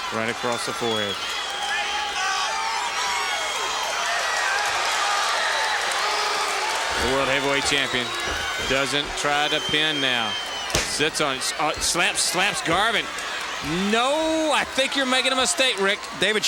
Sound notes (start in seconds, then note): 3.4 crowd jeering